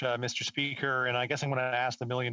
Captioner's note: speaking French